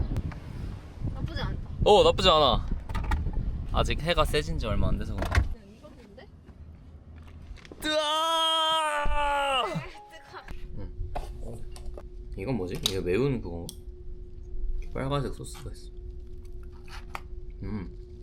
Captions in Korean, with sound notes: 오 나쁘지 않아 아직 해가 세진 지 얼마 안 돼서 그래 (비명주의) 남자들이 차 탈때.mp3 점심을 사서 돌아왔습니다 이거 매운 그거 빨간색 소스가 있어